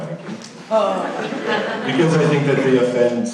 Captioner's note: laughing